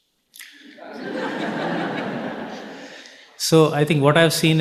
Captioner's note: audience laughing